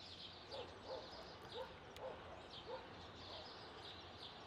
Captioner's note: dog barking